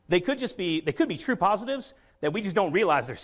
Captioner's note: none